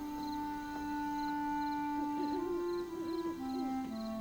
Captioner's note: owl Hooting